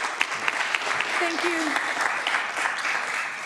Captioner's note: applause